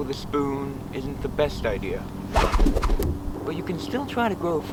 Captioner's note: spoon whooshing through air